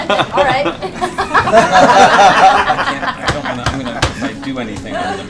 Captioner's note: laughter